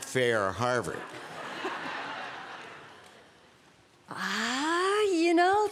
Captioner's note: laughter